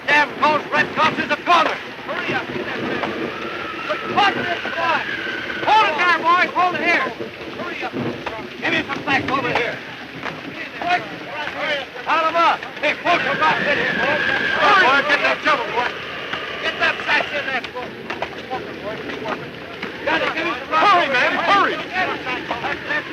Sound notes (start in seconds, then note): 8.5 men shouting; 8.5 wind gusting